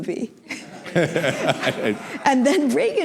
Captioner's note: laughter